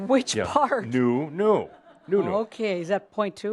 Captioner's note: more chuckles